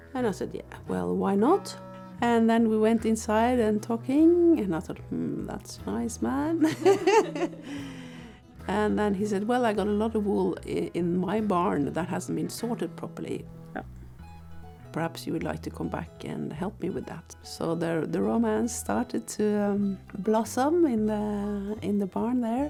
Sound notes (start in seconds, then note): 6.6 laughing